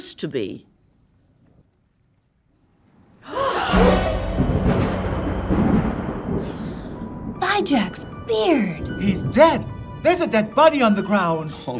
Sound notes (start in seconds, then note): 3.2 gasps; 3.4 ominous music